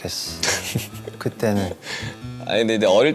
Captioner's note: haha